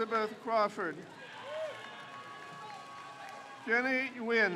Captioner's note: crowd cheers